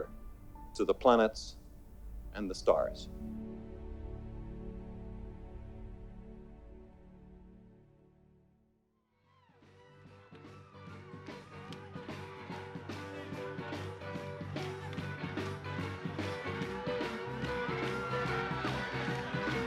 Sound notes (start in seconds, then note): 10.0 people cheering; 11.2 upbeat rock music